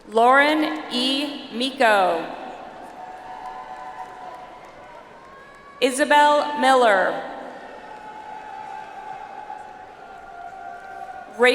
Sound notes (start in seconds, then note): 2.6 audience applauds; 7.2 audience applauds